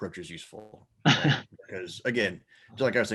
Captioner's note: laughing